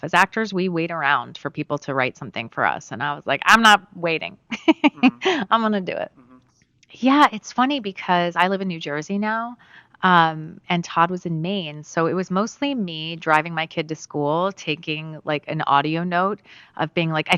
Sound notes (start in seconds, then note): 4.5 Laura laughs